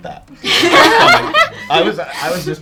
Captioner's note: all laughing